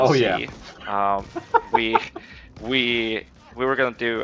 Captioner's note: laughs